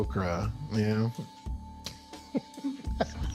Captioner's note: laughs